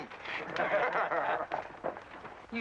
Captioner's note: men laugh